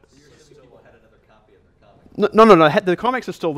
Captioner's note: voiceover